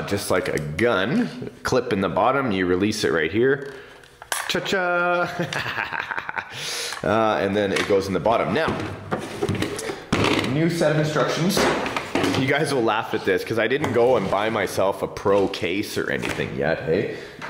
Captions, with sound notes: Just like a gun, a clip in the bottom you release it right here. (plastic clicks) Ta-cha! (laughs) And then it goes in the bottom. Now. (packaging clunks) New set of instructions. You guys will laugh at this 'cause I didn't go and buy myself a pro case or anything yet, hey.